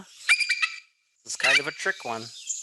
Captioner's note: bird squeaking